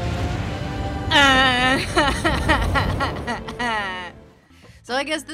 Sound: sobbing

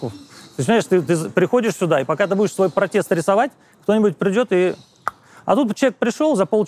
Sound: clicks tongue

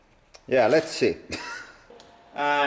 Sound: laugh

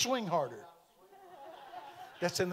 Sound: audience laughing

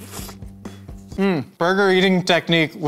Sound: slurping

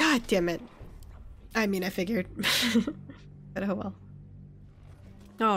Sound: laughs

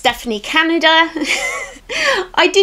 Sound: giggles

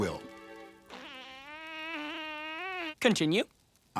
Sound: farting

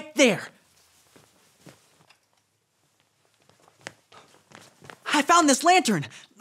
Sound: footsteps plodding

